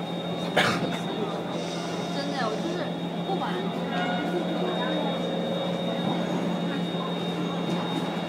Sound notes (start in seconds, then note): 3.8 horn plays as the train arrives